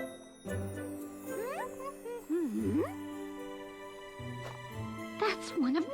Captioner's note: humming